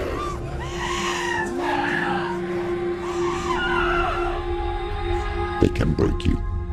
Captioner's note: screaming, sobbing; screaming and sobbing fade